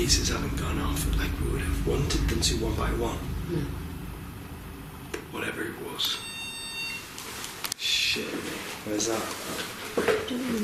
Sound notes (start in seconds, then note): 5.9 beeping